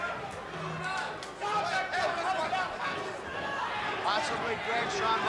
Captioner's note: audience chattering